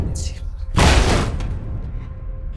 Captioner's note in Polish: odgłos uderzeń